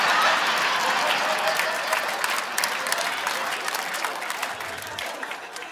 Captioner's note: audience laughing; audience applauding